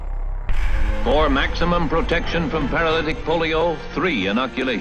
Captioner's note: voiceover